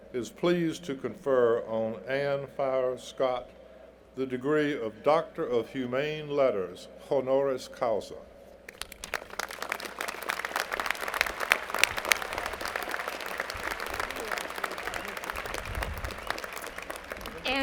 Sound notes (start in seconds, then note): 10.3 applause